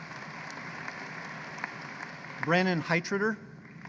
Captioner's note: applause